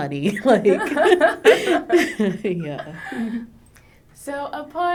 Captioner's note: both laughing